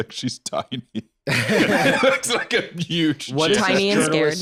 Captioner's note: laughing